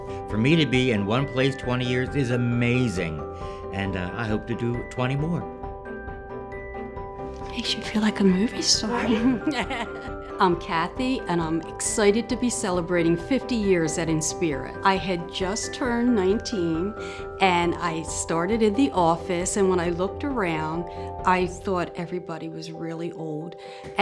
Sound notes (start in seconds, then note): 8.7 laughs